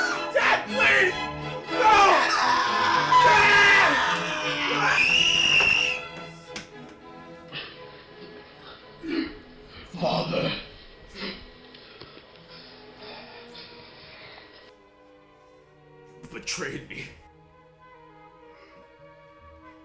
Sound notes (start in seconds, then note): 0.0 both shrieking; 5.7 shrieking